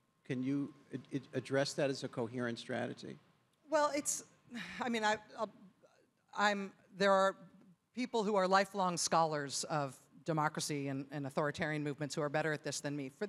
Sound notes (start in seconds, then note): none